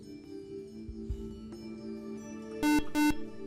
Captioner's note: buzzer